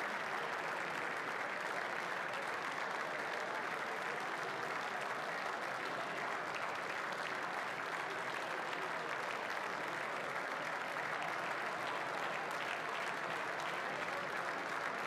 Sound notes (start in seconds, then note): 1.8 applause